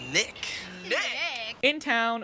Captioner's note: mockingly